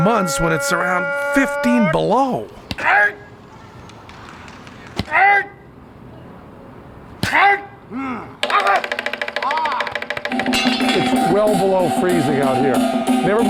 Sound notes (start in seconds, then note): 2.4 shouting